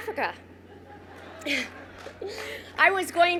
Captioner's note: crowd cheers